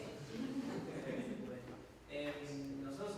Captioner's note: crowd chuckles